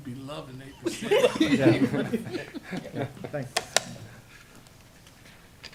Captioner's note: laughter